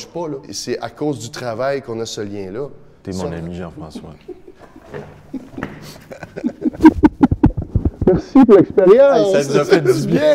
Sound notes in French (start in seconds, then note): 3.9 rires